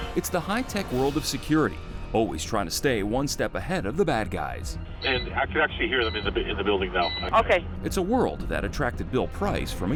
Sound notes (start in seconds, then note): 5.9 alarm beeping